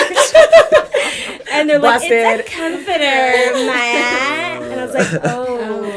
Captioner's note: laughter; valley girl accent